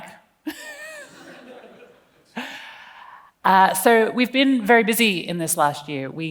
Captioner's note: laughs